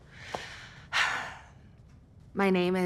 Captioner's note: sighs